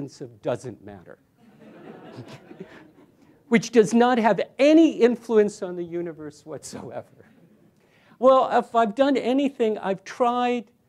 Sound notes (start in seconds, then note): 1.4 laughter